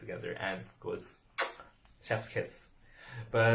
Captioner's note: kissing sound